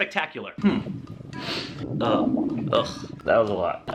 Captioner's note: very loud stomach rumbling sound effect